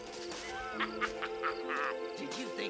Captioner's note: laughs